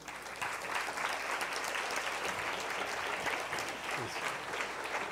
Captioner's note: applause